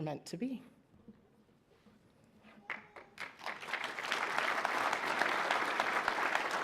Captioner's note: applause